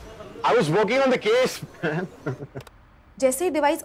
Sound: chuckles

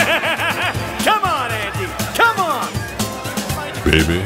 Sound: laughter

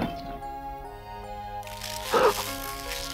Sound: gasps

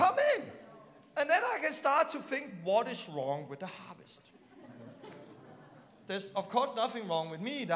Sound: laughing

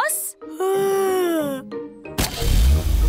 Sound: yawns

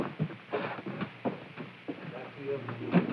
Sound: machinery humming

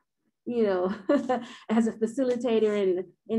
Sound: chuckles

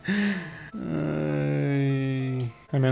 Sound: frustrated sound

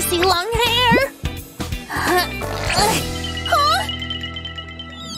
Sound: groans

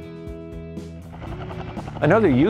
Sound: helicopter blades whirring

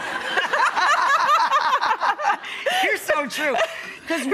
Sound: laughs

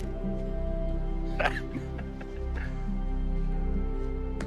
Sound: chuckles

